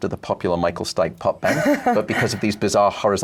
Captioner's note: laughs